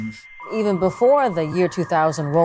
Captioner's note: soundbite of archived recording